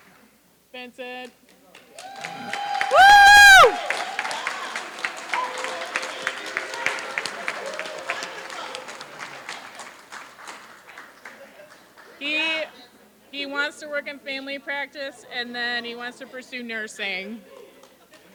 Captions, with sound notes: Vincent. [APPLAUSE] >> Woo! [APPLAUSE] >> Wonderful. [APPLAUSE] >> He wants to work in family practice, and then he wants to pursue nursing.